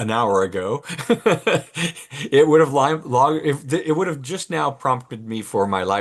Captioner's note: laughs